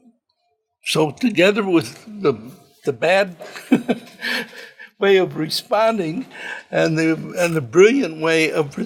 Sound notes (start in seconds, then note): 3.4 chuckles